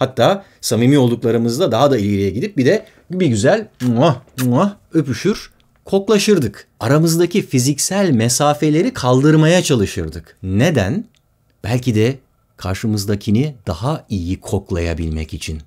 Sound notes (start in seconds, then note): 4.2 kissing sounds